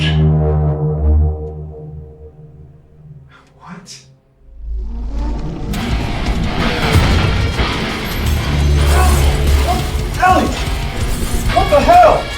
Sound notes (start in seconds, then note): 0.0 pensive music; 4.0 dramatic music; 9.0 Benz groaning